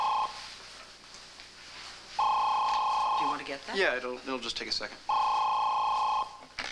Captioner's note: telephone rings